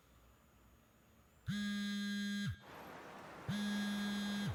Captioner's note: phone vibrating